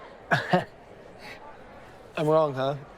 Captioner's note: chuckles